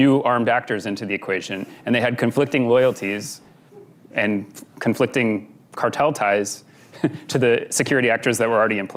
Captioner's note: laughs